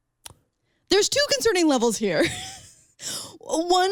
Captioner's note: laughs